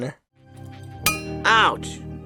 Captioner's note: metallic fist bump